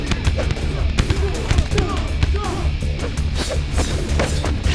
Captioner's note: dramatic music; sticks thudding